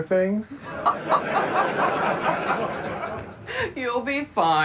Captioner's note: Joanna and audience laughing